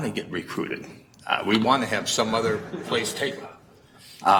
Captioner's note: laughing